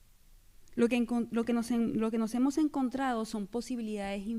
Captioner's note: speaking spanish